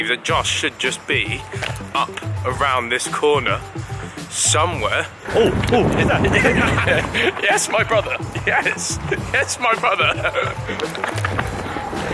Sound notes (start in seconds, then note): 5.3 men laughing; 9.4 laughing